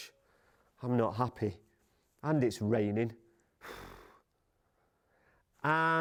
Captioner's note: blows raspberry